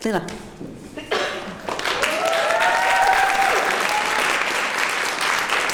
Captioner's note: applause